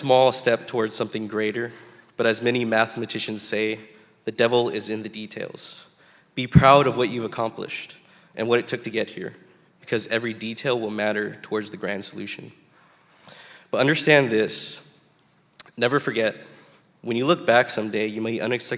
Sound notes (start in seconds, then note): none